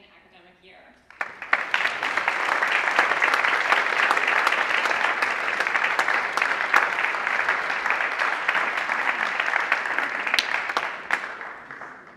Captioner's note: applause